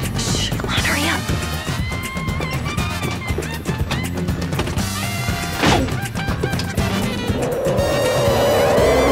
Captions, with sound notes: SHH. COME ON. HURRY UP. [ Thud ]